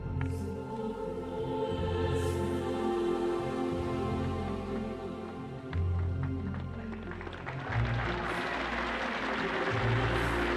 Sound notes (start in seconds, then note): 0.0 choral singing in foreign language; 5.6 people applauding